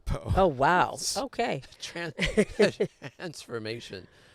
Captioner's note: both laughing